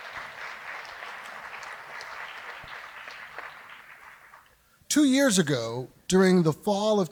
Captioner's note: applause